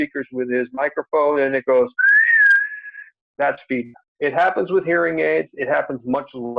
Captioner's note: whistles